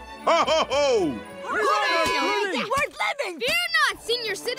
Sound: clamoring

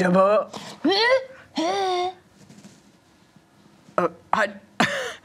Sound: grunts excitedly

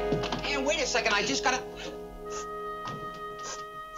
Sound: sobbing

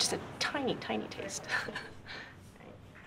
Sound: chuckle

